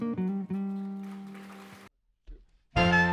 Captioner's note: audience applauding